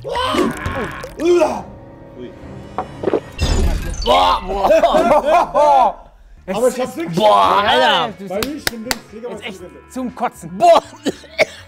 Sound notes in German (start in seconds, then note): 4.3 Würgelaute; 6.4 Stimmengewirr